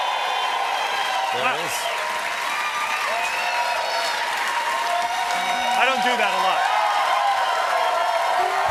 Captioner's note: applause; cheers and applause